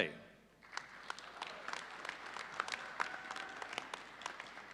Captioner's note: audience applauding